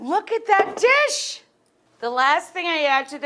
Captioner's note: pan clangs